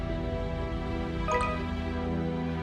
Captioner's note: notification Sound